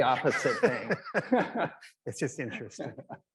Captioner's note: laugh